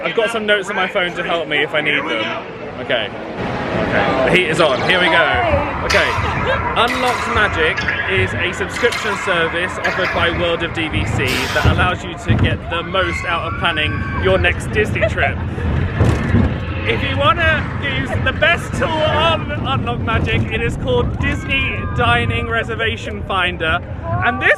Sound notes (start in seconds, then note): 5.6 laughs; 14.9 laughs